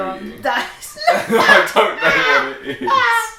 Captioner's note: laughing